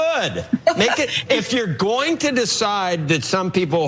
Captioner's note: laugh